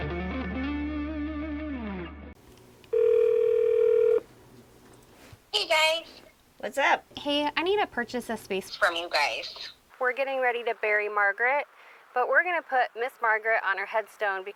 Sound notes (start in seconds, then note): 2.9 phone rings